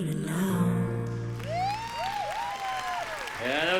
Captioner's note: applause